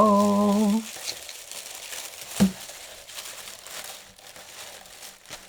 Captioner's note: paper Rustling